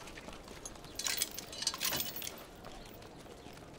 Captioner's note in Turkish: Zincir sesi